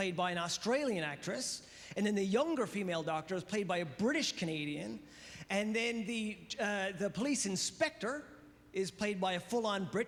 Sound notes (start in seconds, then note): none